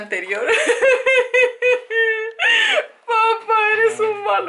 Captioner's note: sobbing